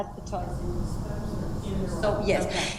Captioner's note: speaks away from microphone